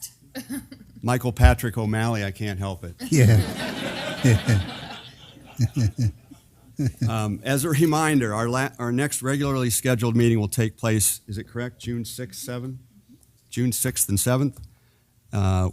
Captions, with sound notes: >> Michael Patrick O'Malley, I can't help it. >> [LAUGHTER] >> As a reminder, our next regularly scheduled meeting will take place, is it correct June six and seven? >> June sixth and seventh.